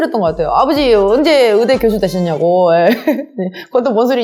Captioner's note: laugh